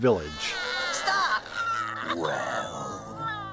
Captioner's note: whining throughout